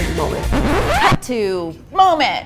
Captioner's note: zipping